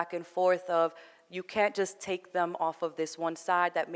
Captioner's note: none